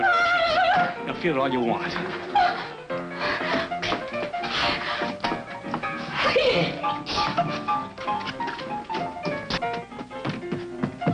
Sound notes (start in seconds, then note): 3.4 upbeat piano music; 7.0 gasps